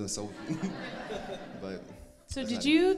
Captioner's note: crowd laughs